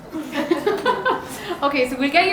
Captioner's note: audience chuckling